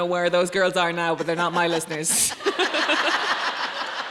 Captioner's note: laughs; audience laughing